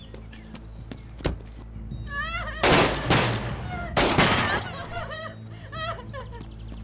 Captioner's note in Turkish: Kadın çığlıkları ve silah sesleri